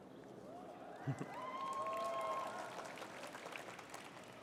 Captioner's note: cheering